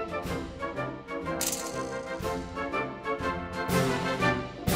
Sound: net rattles

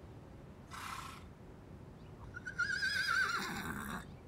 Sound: horse neighs

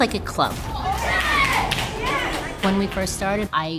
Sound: club members cheering

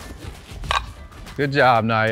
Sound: ball cracks

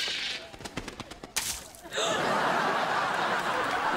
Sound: gasping

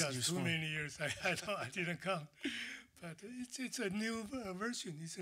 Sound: laughter

